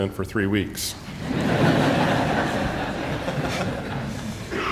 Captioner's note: audience laughing